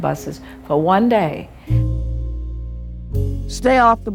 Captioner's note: soundbite of archived recording